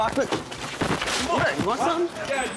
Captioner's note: scuffling